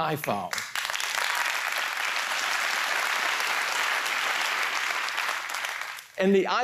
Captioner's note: applause